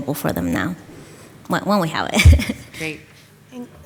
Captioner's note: chuckles